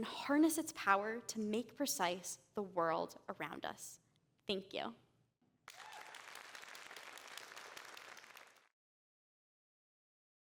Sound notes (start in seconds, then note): 5.6 applause